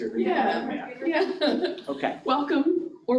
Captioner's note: chuckles